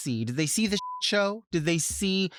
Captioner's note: beep